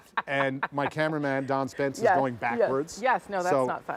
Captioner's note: laughter